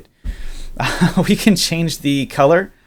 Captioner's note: laughs